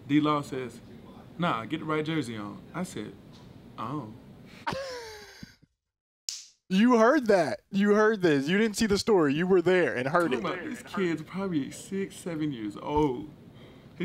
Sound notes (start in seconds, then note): 4.7 laughing and clapping hands together